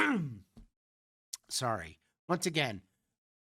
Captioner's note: clears throat